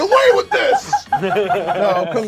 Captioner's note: group laughs